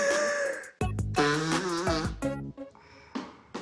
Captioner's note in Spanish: Ruido al soplarse la nariz